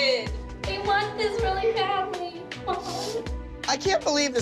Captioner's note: sniffles